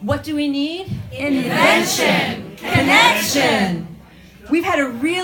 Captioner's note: crowd chants